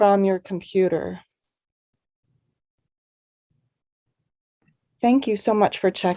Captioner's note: awkward silence